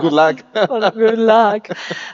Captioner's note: laughs